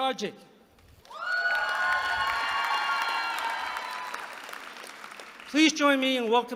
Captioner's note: applause